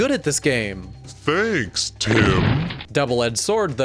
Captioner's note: shotgun reference sound